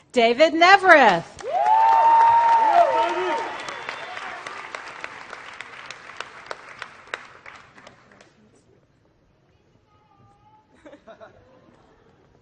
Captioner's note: applause